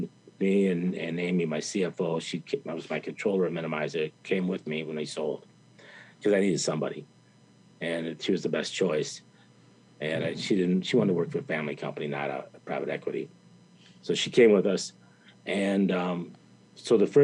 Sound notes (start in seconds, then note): none